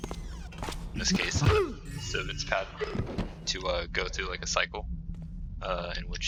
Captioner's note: Blackjack thuds, joyous chime